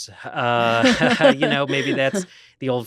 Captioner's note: both laughing